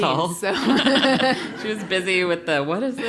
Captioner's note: laugh